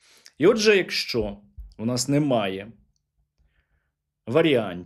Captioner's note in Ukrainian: сопіння